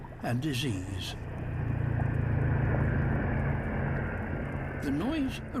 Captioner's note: thrum of motor boat